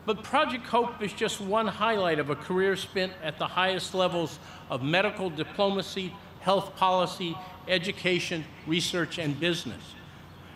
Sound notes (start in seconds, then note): none